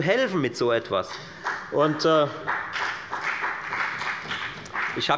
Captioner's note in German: Beifall bei der FDP